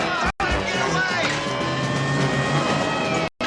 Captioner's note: sirens blaring